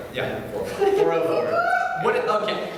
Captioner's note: lone audience member whoops